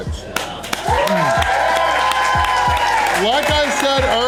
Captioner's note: crowd cheering